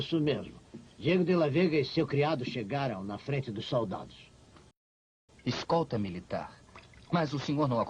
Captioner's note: none